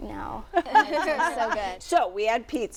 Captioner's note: laughter